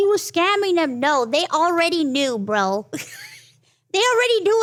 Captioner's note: laughs